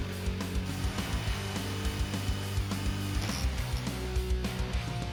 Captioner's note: drill whirring